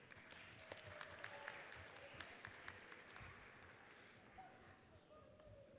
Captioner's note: audience cheers and applauds